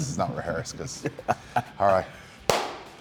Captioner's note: laugh